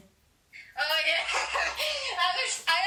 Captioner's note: laughs